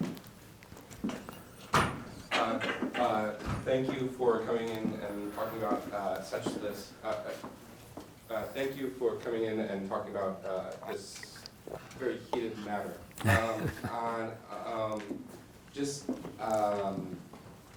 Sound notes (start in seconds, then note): 13.1 laughs